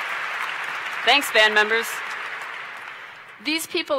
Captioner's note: cheers & Applause